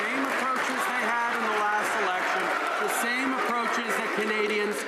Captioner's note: some Applause